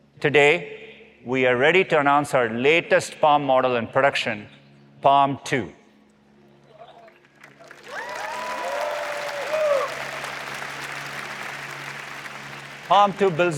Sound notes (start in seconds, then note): 7.0 applause